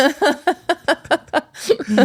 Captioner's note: laughing